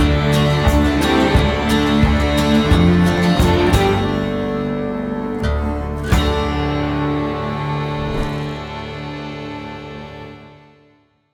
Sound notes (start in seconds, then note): 7.9 flame whooshes